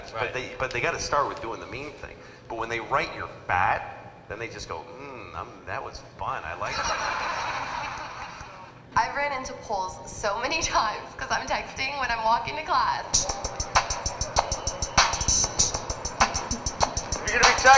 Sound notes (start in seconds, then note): 6.6 audience laughing; 13.1 upbeat electronic music